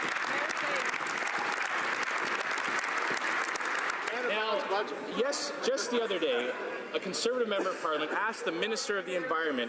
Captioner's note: some Applause